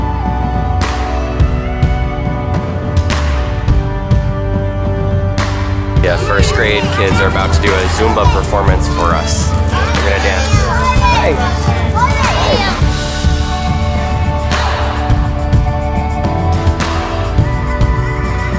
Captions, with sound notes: The first grade kids are about to do a Zumba performance for us. They're gonna dance. (children chattering) Hey! (profound music)